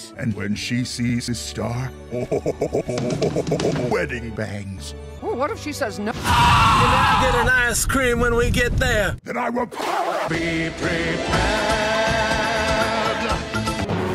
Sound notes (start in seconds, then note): 2.1 laughing; 6.2 screaming